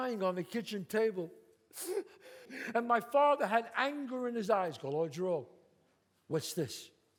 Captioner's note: sobs